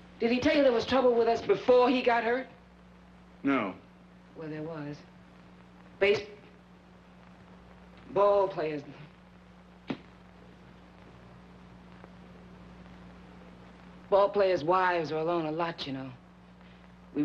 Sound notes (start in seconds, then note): none